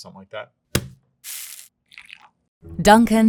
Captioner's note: bag thudding and coffee pouring